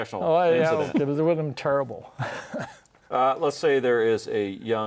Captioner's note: laughs